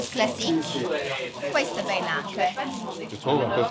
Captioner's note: speaks in Italian